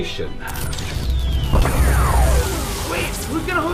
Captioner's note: pulsing